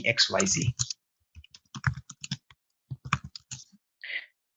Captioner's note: keyboard clicks